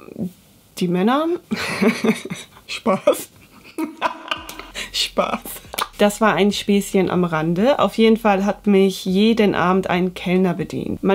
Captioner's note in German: Lach